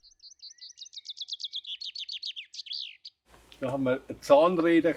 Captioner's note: birds chirp; speaking German